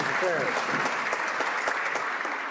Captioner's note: some Applause